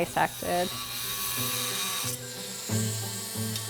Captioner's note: Dremel buzzing